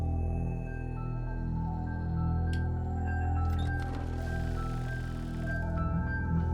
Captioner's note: suspenseful music continues; mechanism droning